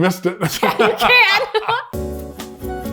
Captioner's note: laughing; elevator music